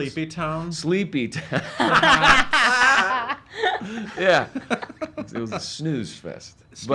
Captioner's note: laughs